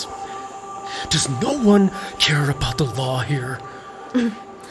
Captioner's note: hushed